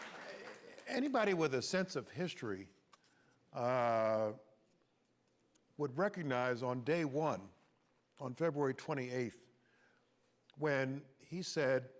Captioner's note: applause